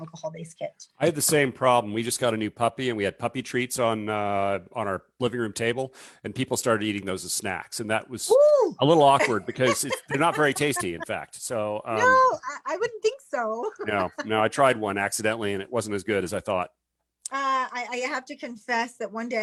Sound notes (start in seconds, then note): 9.1 laughs